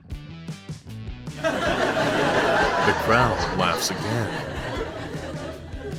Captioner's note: the crowd laughs again